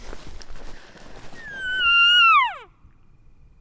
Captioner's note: caller cow calling